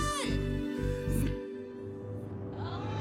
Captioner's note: cheering